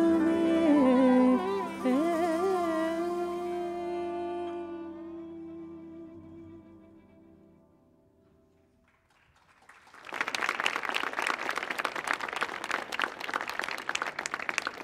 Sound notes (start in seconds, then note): 8.8 audience claps